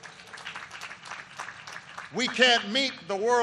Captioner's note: applause